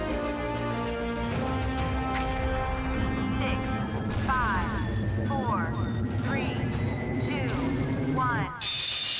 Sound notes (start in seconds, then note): 2.1 distant explosions